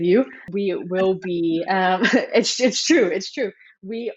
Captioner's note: chuckles